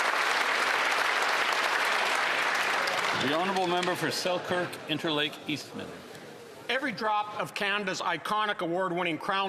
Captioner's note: applause